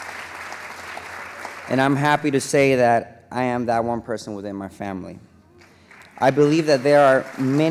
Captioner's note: applause